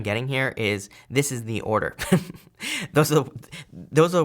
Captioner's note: chuckles